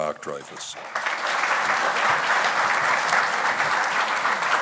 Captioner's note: audience applauding